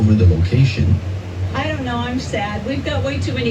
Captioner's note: on TV